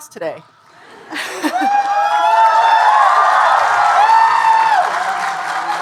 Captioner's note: audience cheering and applauding